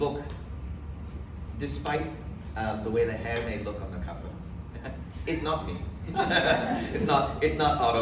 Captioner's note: laughs